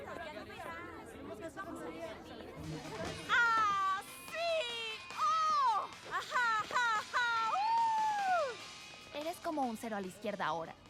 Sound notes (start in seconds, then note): 3.6 happy shouts and squeals